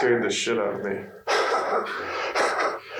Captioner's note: laughing